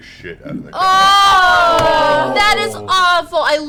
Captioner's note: all groan